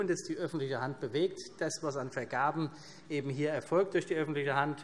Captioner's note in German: none